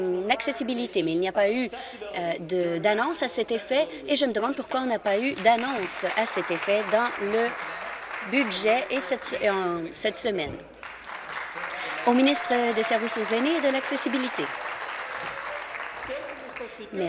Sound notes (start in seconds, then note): 10.7 applause